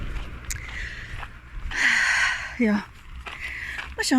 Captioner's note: sigh